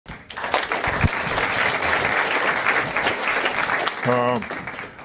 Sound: applause

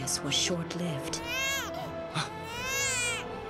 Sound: rapunzel crying

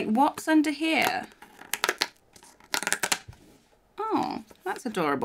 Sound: cut-out snaps

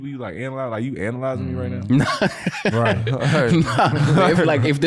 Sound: laughs

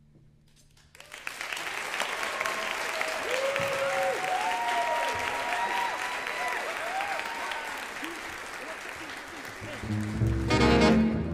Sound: audience applause

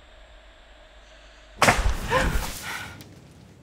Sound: whoosh; gasps

